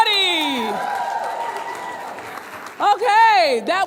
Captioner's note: audience cheering and clapping